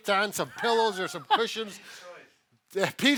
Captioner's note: laughs